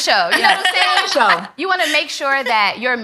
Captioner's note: ladies laughing